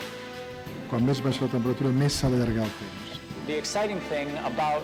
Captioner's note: speaking spanish